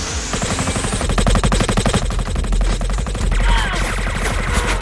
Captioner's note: blaster fire; grunting